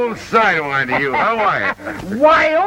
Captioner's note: laughs